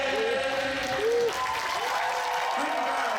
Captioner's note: audience applauding; audience cheering